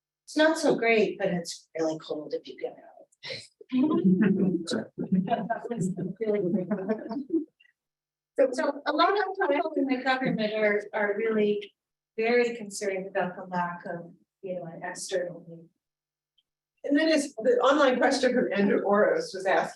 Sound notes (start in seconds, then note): 4.0 laughter